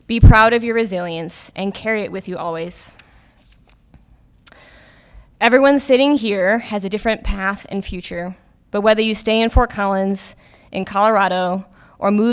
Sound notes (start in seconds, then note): none